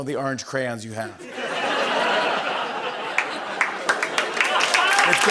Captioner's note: laughter and applause